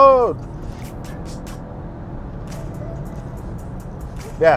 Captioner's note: engine revving